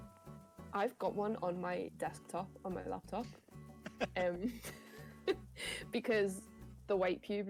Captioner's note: giggling